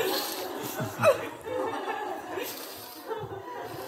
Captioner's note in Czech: smích